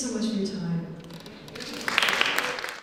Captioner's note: applause